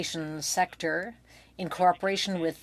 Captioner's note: speaking French